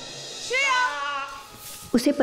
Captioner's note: Chief exclaims